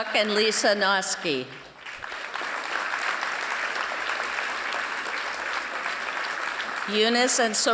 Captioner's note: applause